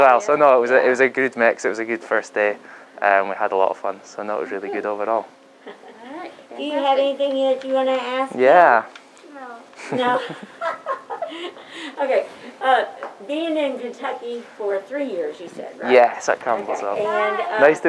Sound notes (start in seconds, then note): 5.6 woman laughs; 9.8 laughs